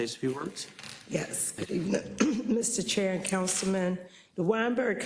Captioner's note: cough